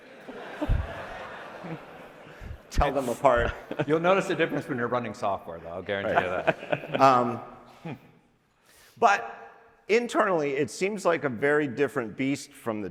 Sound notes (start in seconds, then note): 0.0 audience laughing; 6.0 laughing